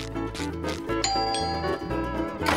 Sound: doorbell ringing

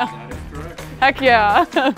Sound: bell rings

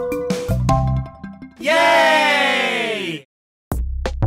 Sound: a crowd shouting YAAAY

